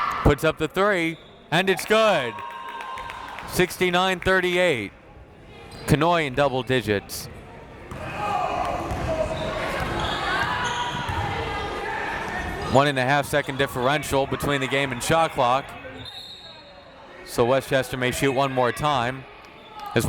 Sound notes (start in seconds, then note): 8.0 crowd members shouting; 16.0 whistle tweeting